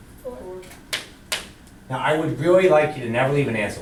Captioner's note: voiceover